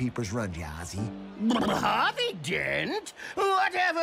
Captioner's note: blubbering